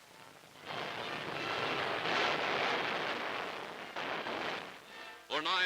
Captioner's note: explosions